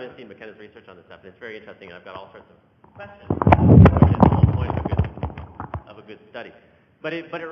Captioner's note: microphone noise